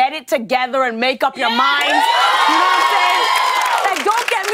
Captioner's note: cheers and applause